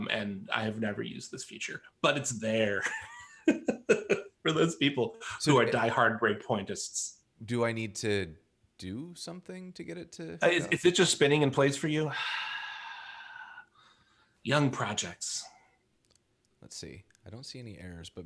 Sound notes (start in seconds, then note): 2.8 laughs; 12.1 deep sigh